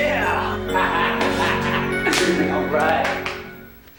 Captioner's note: laughs